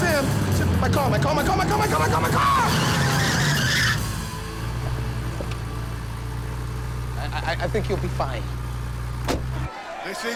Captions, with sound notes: Simms, my car, my car, my car, my car, my car! (tires screeching) I, I think you'll be fine. (overlapping chattering)